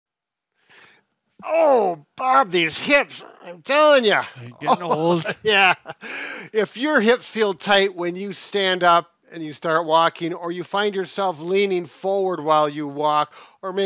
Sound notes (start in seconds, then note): 4.1 chuckles